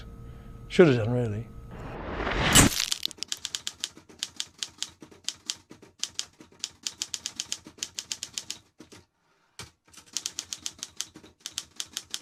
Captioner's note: typewriter sound